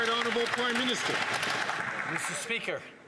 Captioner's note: some Applause